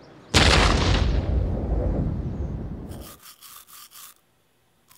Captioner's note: exploding